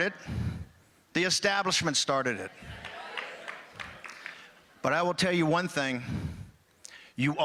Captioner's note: applause